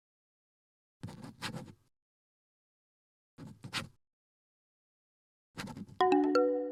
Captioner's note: writing sound